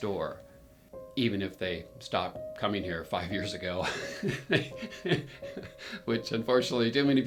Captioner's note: laughs